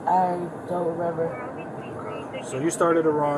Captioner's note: radio chatter